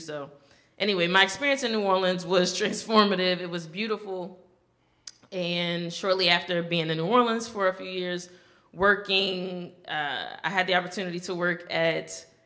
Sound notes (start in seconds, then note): none